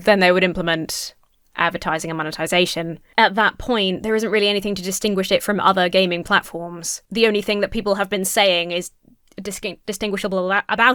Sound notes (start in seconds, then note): none